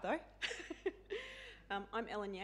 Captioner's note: chuckling